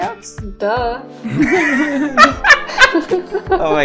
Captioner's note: laughter